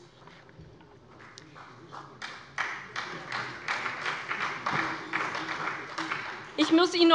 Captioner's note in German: Beifall bei der SPD